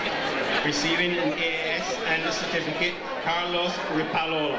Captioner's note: murmurs